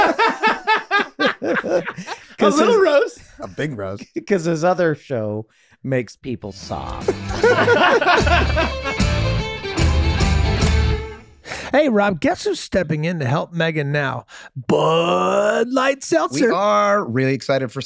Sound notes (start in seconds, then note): 0.0 everyone laughing; 7.0 everyone laughing; 9.2 country music